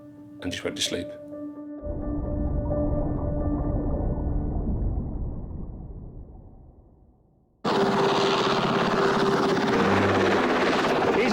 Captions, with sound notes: and just went to sleep. (sea bubbles) (helicopter blades whirl)